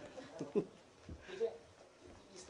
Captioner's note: laughter